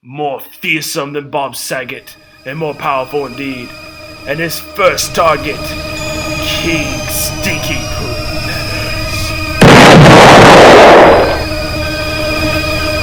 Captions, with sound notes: More fearsome than Bob Saget And more powerful indeed And his first target "King Stinky Poo Nanners" *boom*